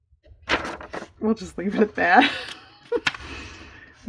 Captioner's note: laughs